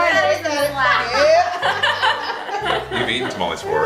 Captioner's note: laughter